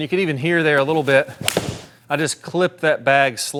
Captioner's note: club striking ball